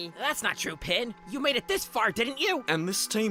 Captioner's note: none